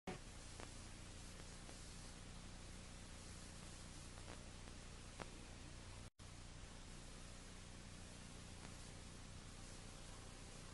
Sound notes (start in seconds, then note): 0.2 VHS static; 6.2 VHS static